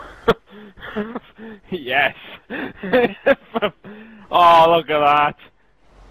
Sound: laughing

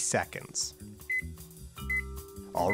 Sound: beeping

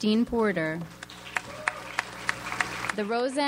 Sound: audience applauds

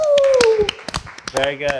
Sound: scattered applause

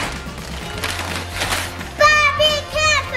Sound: paper ripping

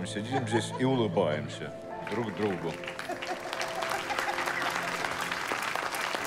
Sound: audience laughing and applauding

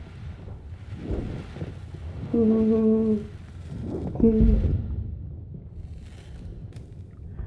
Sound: muffled bag rustling; female humming continues

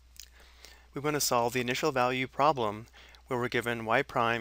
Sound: voiceover

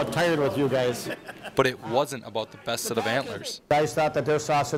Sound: voiceover

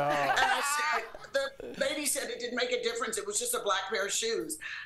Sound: laughter

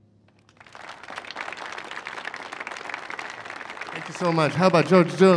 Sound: applause

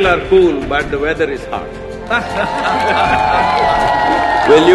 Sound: cheering/Applause; laughter

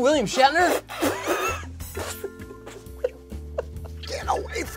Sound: spitting noises

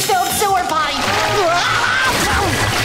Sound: screaming

